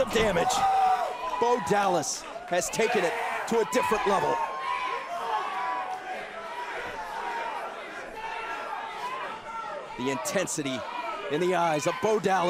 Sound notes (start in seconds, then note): 4.7 crowd cheering